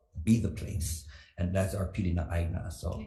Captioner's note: speaks foreign language